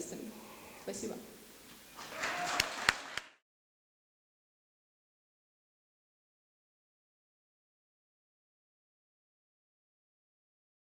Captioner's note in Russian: аплодисменты